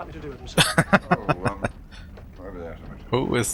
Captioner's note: laughing